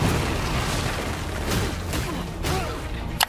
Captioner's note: ground blasting; fists pounding